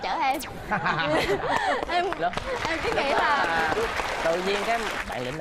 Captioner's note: laughing and applause